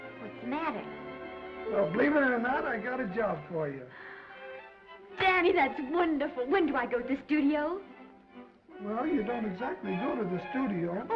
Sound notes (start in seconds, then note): 3.9 Esther gasps